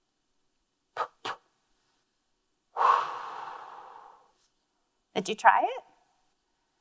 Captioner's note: exhales